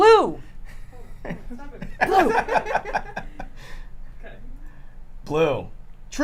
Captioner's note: laughter